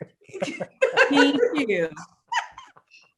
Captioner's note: both laugh